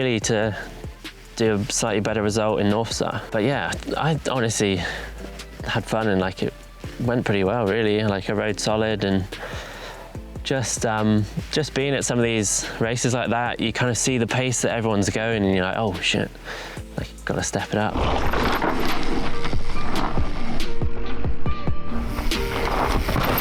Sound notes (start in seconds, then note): 17.3 gravel grinding; 18.3 chain whirring; 20.7 mellow music